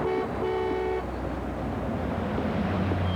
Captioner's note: honk honk